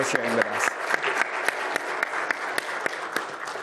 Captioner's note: applause